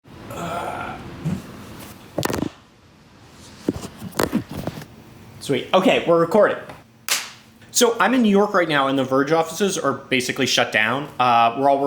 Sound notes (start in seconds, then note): 0.3 grunting; 7.1 claps